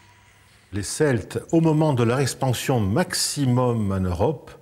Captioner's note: French spoken audio